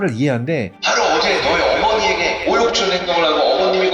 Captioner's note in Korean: 확성기음